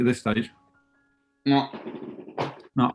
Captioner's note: with mouth full